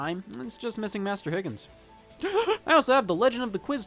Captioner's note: gasps